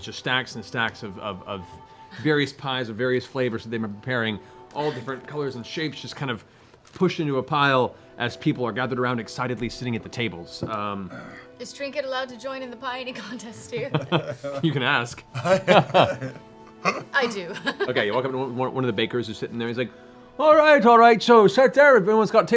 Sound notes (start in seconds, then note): 13.5 laughs